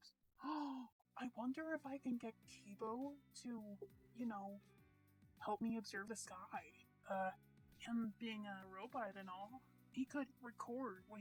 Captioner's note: medium gasp